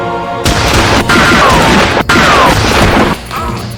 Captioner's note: gunshots booming; Mario groaning